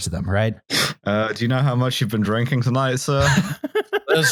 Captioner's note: sniffs; laughs; slurring